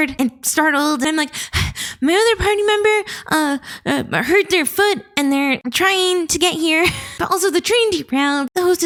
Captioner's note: panting